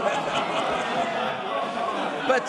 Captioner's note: laughter